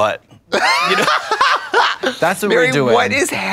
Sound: Trixie chuckles

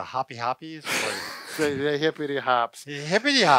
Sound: laughs

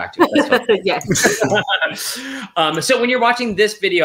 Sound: laughs

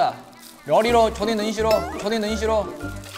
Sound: Changsha dialect comes out

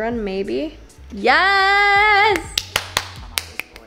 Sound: claps

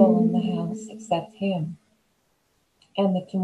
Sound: sad lyrical humming

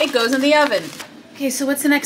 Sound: paper bag scrunching

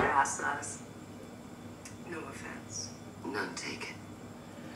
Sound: TV show running

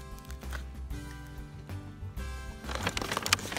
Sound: upbeat guitar music; snaps

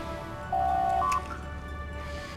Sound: door Chime

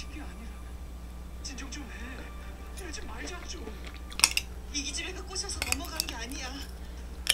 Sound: eating

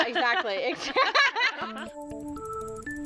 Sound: laughter

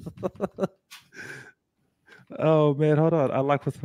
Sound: laughs

